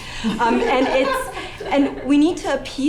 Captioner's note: laughter